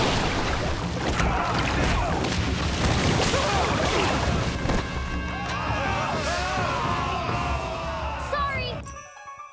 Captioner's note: groaning; groaning, splashing